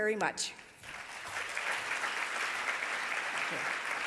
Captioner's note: audience applauding